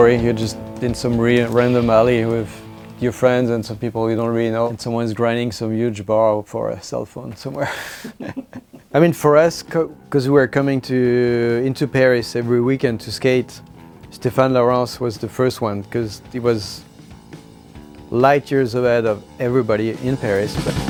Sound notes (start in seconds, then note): 7.6 laughs